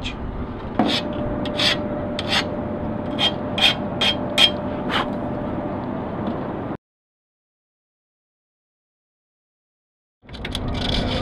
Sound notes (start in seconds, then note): 2.2 filing